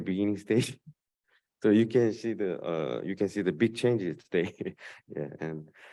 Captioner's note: laughs